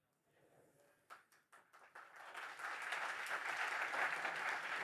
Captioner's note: applause